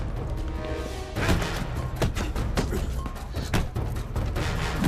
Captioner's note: blocks thudding